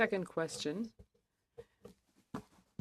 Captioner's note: speaking French